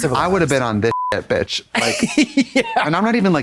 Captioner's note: beep